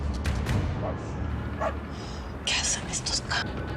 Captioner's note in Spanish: Ladridos